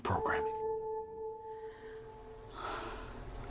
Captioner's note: takes a deep breath; eerie music